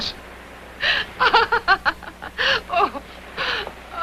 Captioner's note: laughing